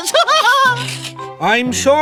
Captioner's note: both Laugh; giggles